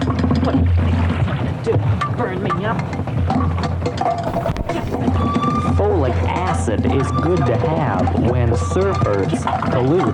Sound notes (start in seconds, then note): 1.1 grunting noises